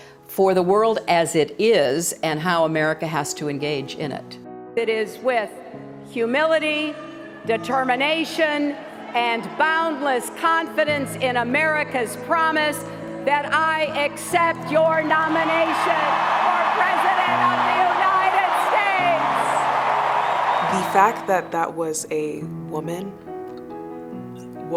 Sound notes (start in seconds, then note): 19.3 applause